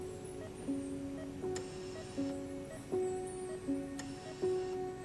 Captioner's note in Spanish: Sonido de telemetría